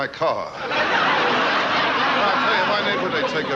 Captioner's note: audience laughing